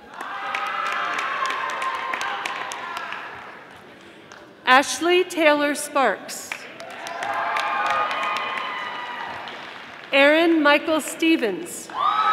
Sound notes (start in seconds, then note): 0.0 audience applauding; 6.7 audience applauding